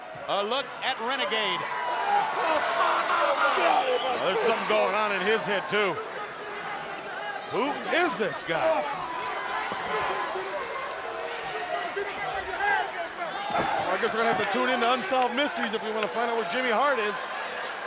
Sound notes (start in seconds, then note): 0.0 crowd cheering; 1.5 Renegade screaming; 8.8 crowd cheering